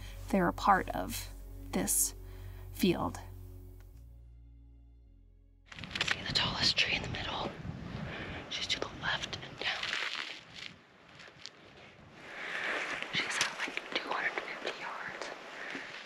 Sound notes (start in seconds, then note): 3.7 whispering